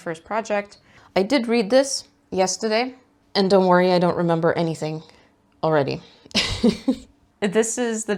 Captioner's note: laughs